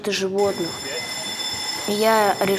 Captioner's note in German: Schulglocke